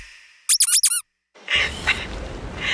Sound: laughing

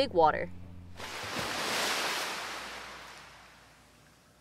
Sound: waves Crashing

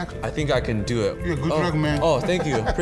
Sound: laughs

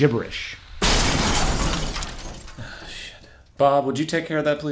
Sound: glass Breaking

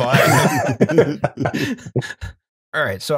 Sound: laughter

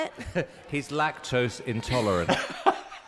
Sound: laughs

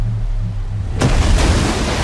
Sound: water splashes

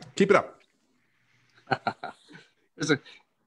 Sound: chuckling

